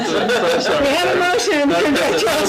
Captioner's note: laughs